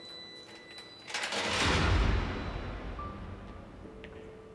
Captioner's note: door slams